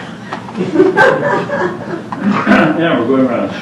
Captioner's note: laughter